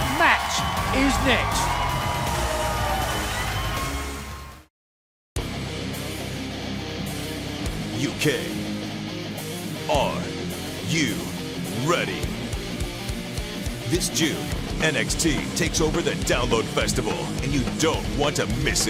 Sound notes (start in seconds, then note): 1.9 crowd cheering